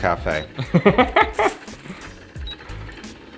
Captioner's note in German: lacht